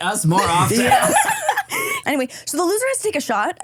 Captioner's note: everyone laughs